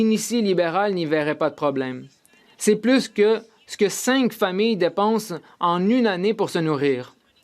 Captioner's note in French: voix de l'interprète